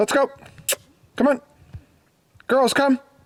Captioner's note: makes kissing sound